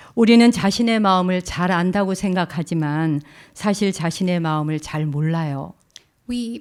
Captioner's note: speaking in Korean